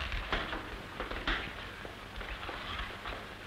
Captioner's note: footstep